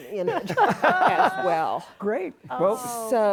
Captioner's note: all laughing